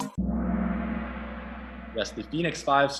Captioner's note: gong